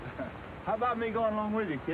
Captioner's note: laughs